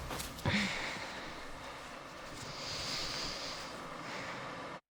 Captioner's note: Claire sighs